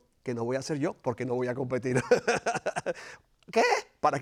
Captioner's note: laugh